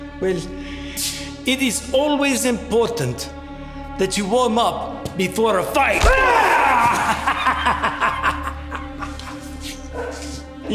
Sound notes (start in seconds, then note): 5.8 Siegmund laughing; 5.8 Siegmund yelling; 5.9 punch thudding